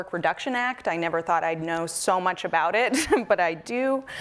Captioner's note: laughs